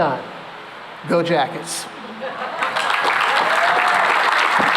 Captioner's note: laughter; cheering and applause